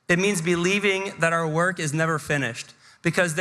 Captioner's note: none